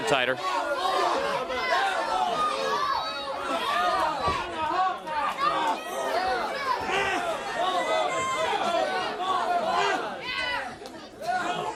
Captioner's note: crowd chatter